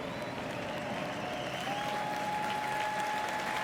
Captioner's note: applause